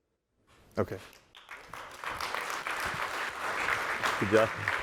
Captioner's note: applause